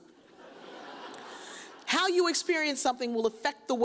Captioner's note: audience chuckles